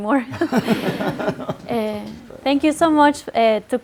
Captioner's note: group laughs